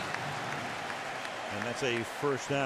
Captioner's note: cheering, applause